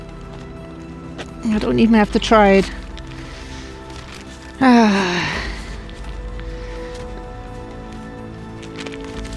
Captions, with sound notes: I don't even have to try it. [Loud sigh]